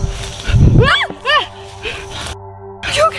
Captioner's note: kayla and tracey scream